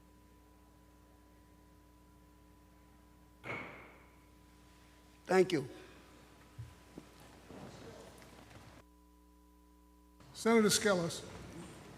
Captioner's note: moment of silence